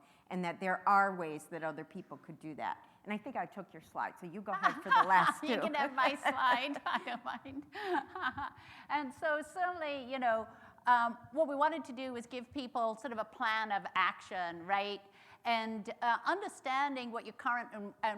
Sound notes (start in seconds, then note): 4.6 laughs